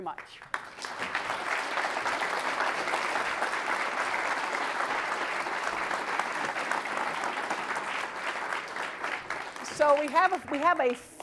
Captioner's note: applause